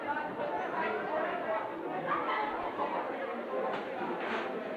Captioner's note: students talking